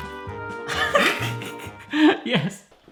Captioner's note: laughing